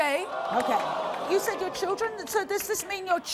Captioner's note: audience groaning